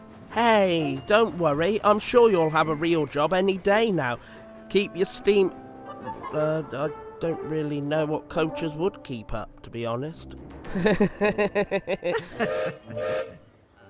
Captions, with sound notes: "Hey, don't worry. I'm sure you'll have a real job any day now. Keep your steam...err, I don't really know what coaches would keep up to be honest..." [BOTH CHUCKLE AND GILBERT WHISTLES]